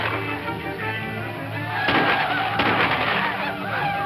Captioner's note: screaming ecstatically